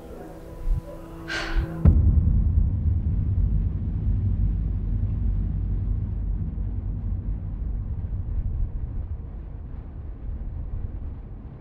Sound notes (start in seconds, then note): 1.9 ominous humming